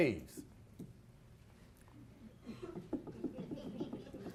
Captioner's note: audience laughs